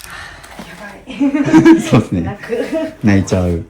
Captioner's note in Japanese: 笑い